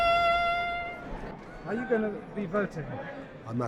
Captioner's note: voiceover